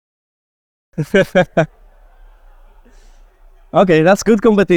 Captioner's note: laughter